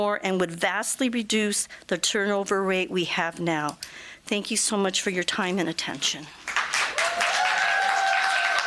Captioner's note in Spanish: Aplausos